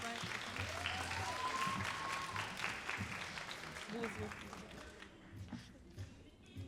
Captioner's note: all applauding and cheering